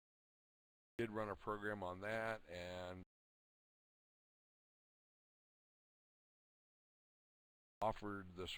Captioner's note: audio drops; audio drops